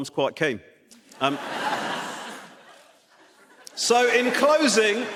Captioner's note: audience laughs